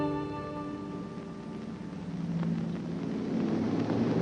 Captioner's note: plane rumbles